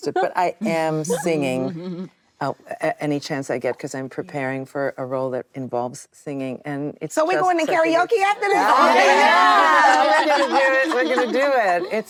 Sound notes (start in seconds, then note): 7.4 actresses reacting